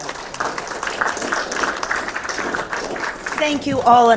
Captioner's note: attendees clapping